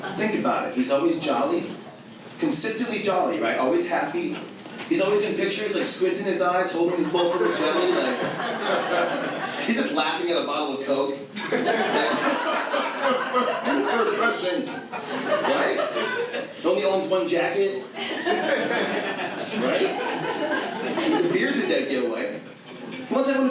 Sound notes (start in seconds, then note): 11.3 audience laughing